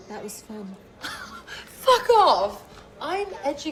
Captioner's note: laughs